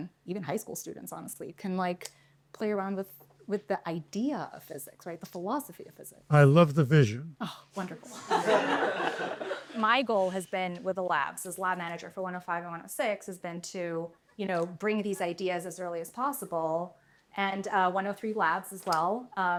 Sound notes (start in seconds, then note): 8.0 laughter